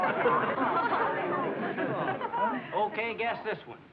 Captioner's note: excited chatter